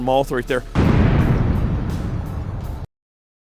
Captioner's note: explosion